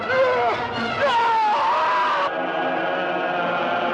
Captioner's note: screams